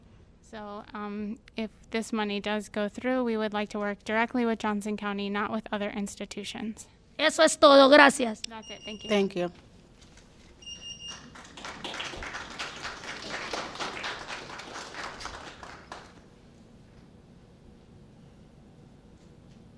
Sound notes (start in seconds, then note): 14.3 applause